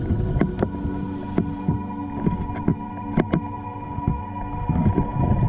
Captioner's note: underwater sounds continue